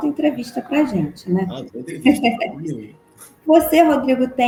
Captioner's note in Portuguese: risos